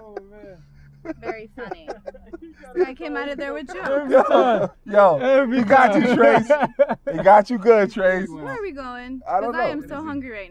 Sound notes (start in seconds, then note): 7.4 laughing